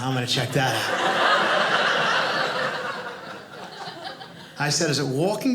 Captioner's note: audience laughing